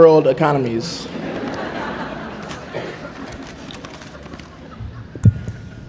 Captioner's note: laughter